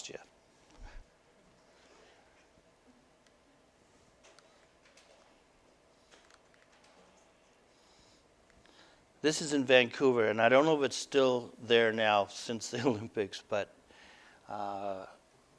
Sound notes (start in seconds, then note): none